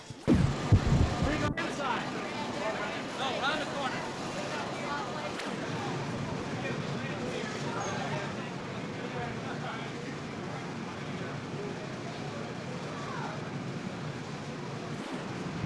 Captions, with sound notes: [Crowd noies, unidentified voice] Round the corner. [Union Station noise]